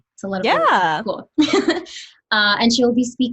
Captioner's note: laughs